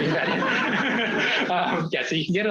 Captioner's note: laughter